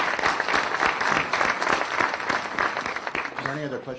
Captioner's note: applause